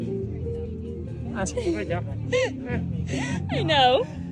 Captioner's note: laughing